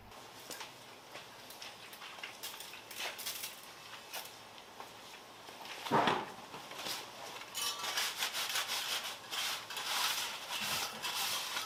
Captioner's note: working sound